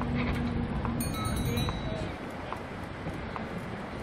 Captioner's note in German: Fahrradgeklingel